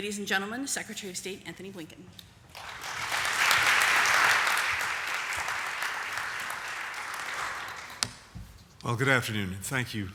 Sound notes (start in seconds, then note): 5.7 applause